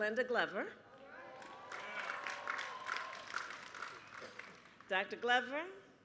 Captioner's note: applause